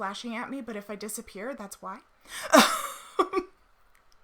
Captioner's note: laughs